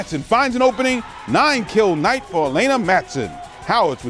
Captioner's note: cheers